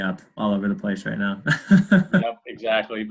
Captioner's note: laughs